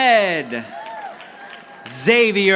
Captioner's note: audience applauding